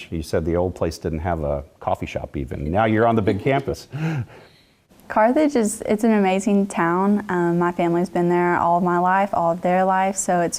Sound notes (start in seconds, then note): 2.6 laugh